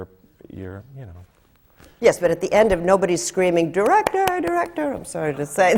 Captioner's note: claps